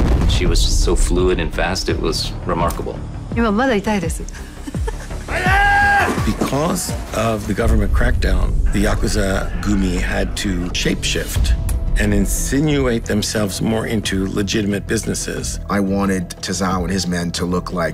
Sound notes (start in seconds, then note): 2.8 speaking in japanese; 4.3 chuckles